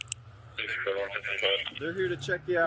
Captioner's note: radio chatter